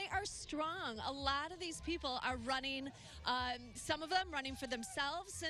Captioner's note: cheering